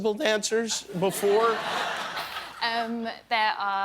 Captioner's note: laughter